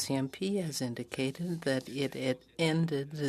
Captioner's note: speaking French